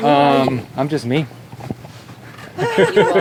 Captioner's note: laughs